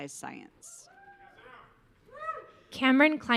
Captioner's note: audience cheering